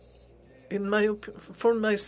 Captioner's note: speaking French